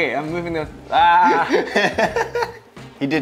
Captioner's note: laughter